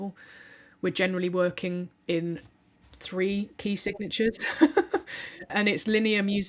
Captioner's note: laughs